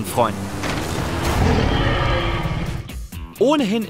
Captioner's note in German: Dinosaurierruf